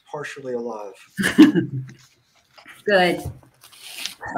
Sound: laughs

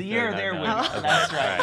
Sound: laughs

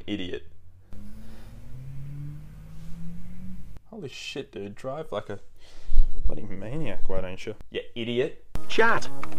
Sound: car sound hooning the street

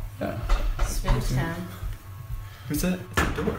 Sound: door knocking

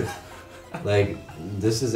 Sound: laughs

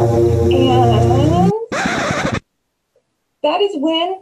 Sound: record scratch sound effect

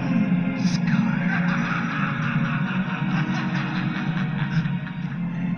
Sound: laughing

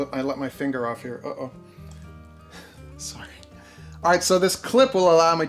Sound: laughs

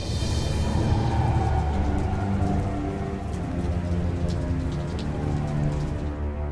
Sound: rain

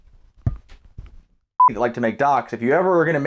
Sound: beep

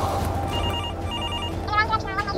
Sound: phone Ringing

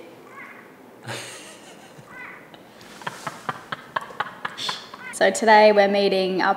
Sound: frogs croaking; laughing

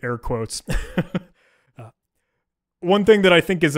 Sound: chuckling

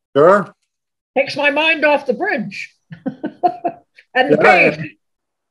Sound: laughs

